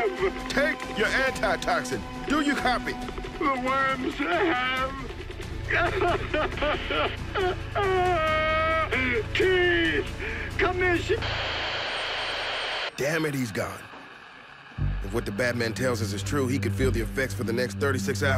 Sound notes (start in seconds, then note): 5.6 sobbing; 10.5 static